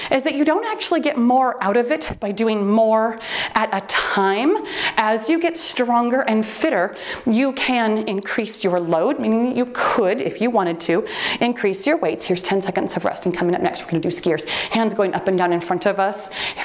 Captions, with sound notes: is that you don't actually get more out of it by doing more at a time, as you get stronger and fitter, you can increase your load, (timer beeps) meaning that you could, if you wanted to, increase your weights, here's 10 seconds of rest and coming up next, we're gonna do skiers, hands going up and down in front of us,